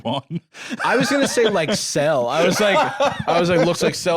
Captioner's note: laughs